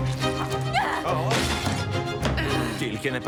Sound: dramatic music playing; both grunting

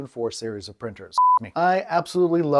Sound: beep

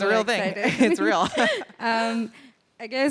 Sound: laughs

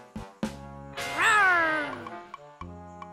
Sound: growling

